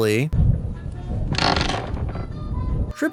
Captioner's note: creak